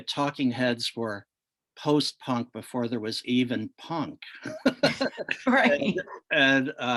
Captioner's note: laughs